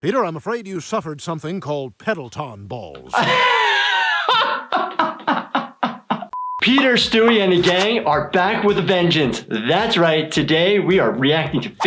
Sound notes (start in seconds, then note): 3.1 laughing; 6.3 test tone beeping